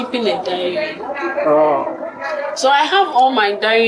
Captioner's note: exclaims